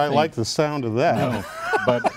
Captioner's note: laughing